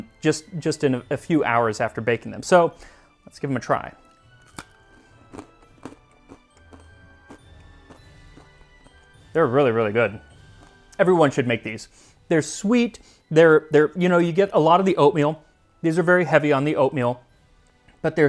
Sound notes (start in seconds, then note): 4.3 crunch Crunch